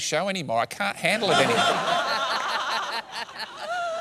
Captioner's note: laughter